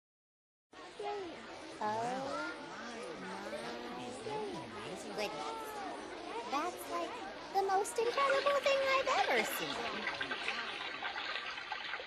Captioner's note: aquariums bubbling